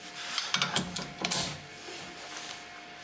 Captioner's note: clattering